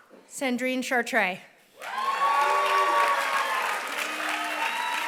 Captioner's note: applause